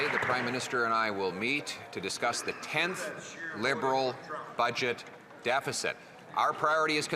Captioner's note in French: voix de l'interprète